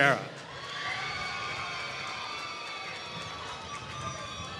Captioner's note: applause